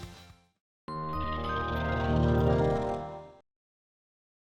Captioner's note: chiming tone